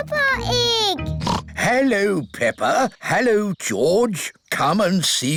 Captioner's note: oinks